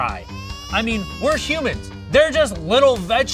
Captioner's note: baby crying